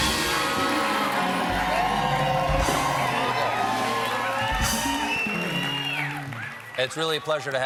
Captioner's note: cheers